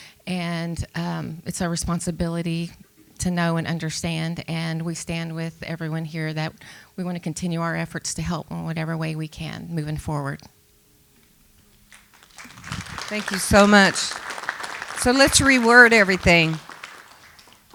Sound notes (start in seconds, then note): 11.9 applause